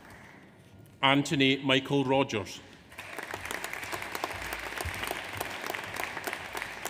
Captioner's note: audience applauds